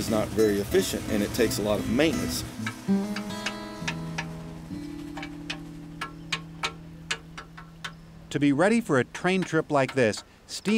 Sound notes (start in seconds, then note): 2.7 tapping